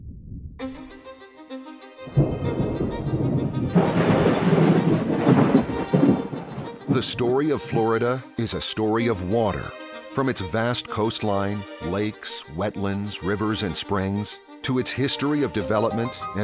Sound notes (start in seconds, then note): 0.1 upbeat classical music; 2.1 thunder